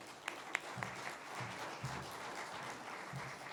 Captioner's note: applause